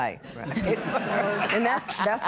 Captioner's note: laughing